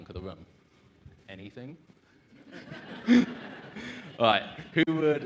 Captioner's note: laughs